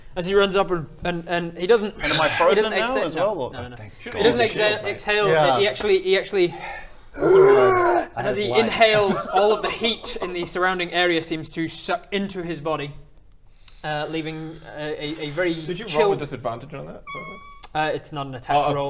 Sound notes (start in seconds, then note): 2.0 hrrgh